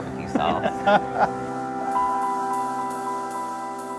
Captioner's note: people laughing; gentle music